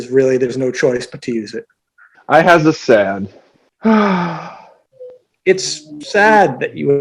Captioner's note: sighs